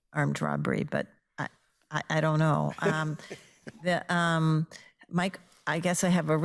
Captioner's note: laughing